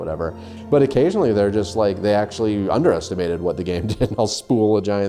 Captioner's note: laughs